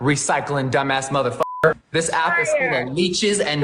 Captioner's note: beep